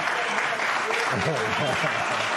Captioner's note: applause